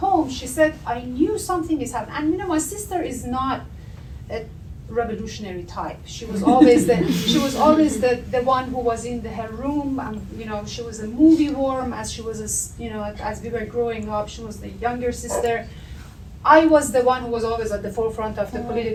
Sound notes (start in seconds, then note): 6.3 audience laughter